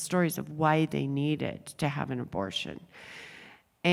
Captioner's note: none